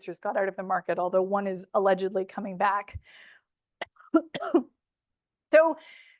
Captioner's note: coughs